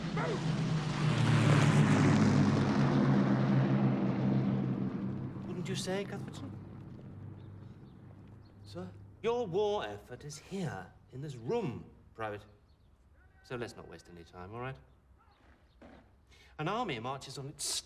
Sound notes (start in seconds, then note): 4.2 engine roaring decreases